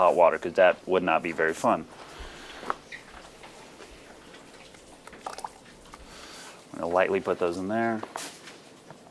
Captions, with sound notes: 'cause that would not be very fun. (water gurgling) I'm gonna lightly put those in there.